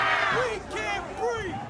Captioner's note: crowd